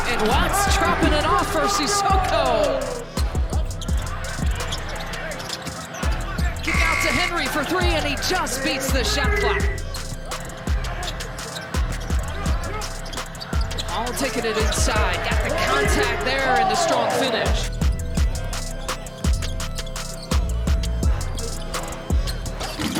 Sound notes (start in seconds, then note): 3.3 sneakers squeaking; 3.3 tense energetic music; 6.7 buzzer blaring; 10.0 sneakers squeaking; 10.0 tense energetic music; 17.9 sneakers squeaking; 17.9 tense energetic music